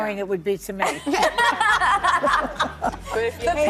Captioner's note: laughing